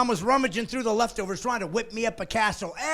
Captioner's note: laughing